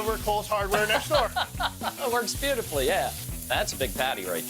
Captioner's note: laughs